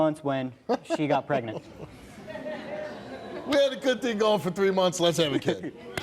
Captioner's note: laughs